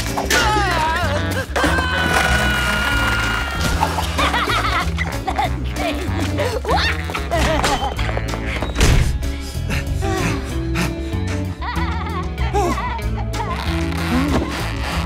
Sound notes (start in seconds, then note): 1.6 screams; 4.4 laughing; 9.1 both panting